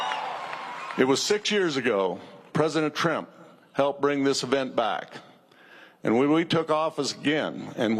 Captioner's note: cheers and applause